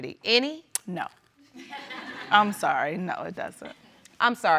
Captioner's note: audience laughs